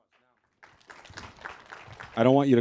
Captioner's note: applause